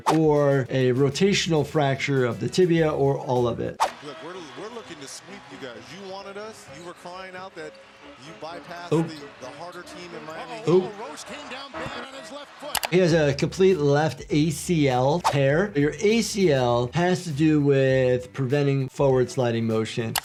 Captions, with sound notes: (audio whooshes) or a rotational fracture of the tibia or all of it. (audio whooshes) - Look, we're looking to (crowd roars) sweep you guys; you wanted us, you were crying out that you bypassed the - Oh. - harder team in Miami. - Uh-oh. - Ooh. - Roche came down bad on his left foot. (video clicks) - He has a complete left ACL tear; your ACL (audio whooshes) has to do with preventing forward sliding motion.